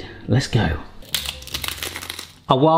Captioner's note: crunching